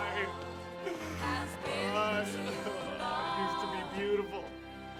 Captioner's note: crying